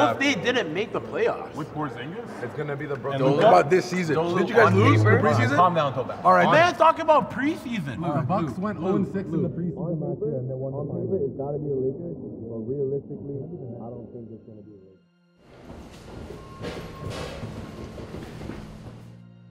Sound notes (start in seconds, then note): 10.1 muffled chatter